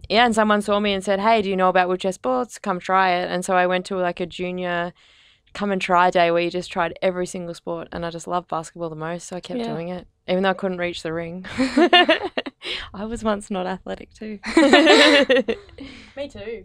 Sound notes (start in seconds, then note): 11.5 laughing; 14.4 laughing